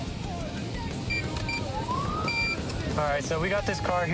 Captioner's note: buttons beeping